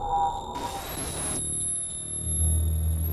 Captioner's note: static hisses